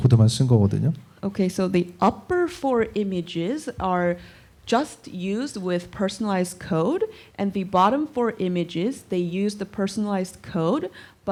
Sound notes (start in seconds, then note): none